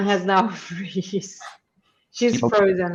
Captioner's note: chuckles